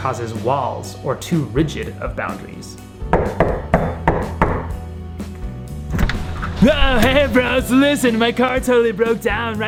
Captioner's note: knock knock knock